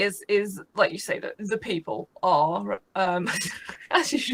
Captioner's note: laughs